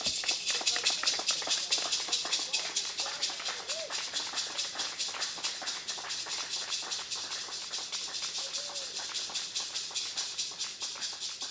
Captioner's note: applause